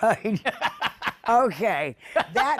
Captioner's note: laughs